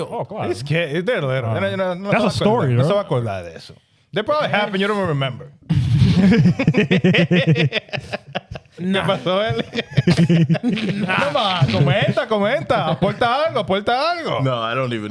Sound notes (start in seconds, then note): 3.4 speaking Spanish; 8.7 laughing